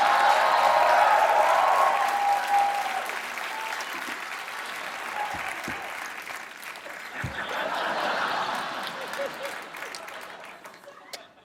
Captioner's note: applause; laughter